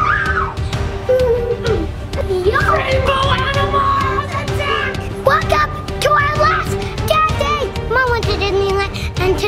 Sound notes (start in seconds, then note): 2.1 children playing